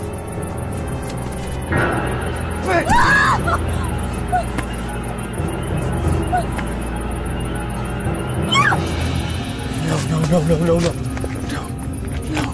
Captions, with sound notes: - Bitch! (Kasey screams) No, no, no, no, no, no. No, no.